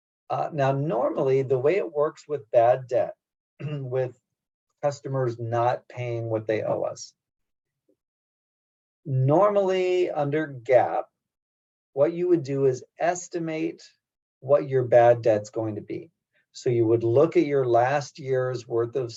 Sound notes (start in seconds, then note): 3.6 cough